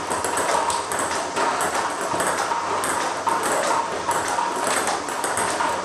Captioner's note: ball ping pong hitting continues